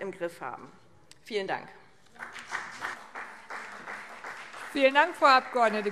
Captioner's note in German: Beifall BÜNDNIS 90/DIE GRÜNEN und vereinzelt CDU